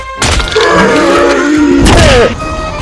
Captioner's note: groaning